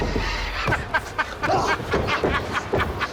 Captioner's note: Rick laughs; screams